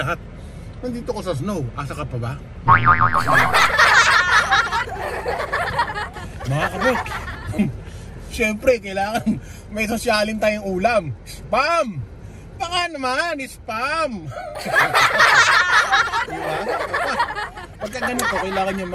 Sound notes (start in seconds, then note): 3.2 laugh